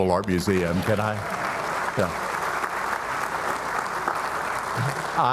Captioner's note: audience applauding